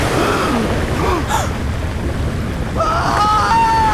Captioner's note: Israelites gasp; Israelites scream